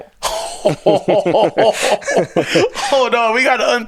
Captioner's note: both laughing